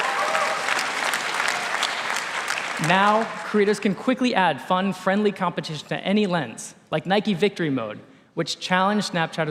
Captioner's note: applause